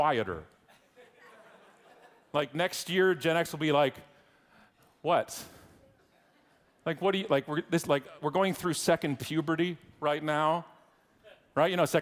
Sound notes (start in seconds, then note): 1.1 audience laughing